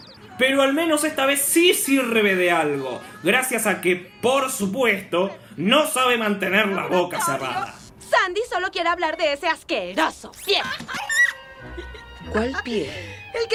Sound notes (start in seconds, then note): 10.6 obnoxious giggles and sounds